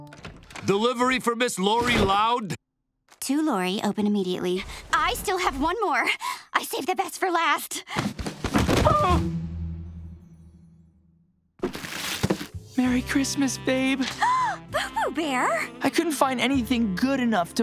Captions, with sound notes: Delivery for Miss Lori Loud? "To Lori: Open immediately." I still have one more. I saved the best for last. [yelping] Merry Christmas, babe. [gasps] Boo-Boo Bear? I couldn't find anything good enough to buy you